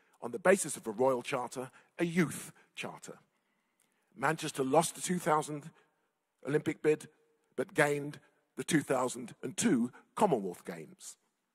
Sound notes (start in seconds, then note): none